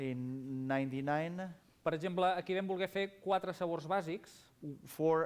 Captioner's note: non-english speech